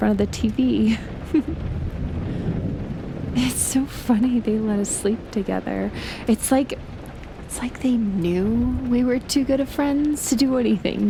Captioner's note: she giggles